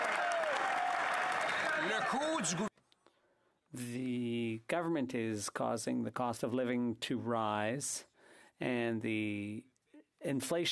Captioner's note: some Applause